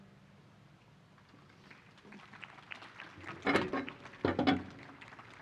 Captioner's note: applause